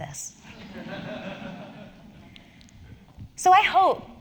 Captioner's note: laugh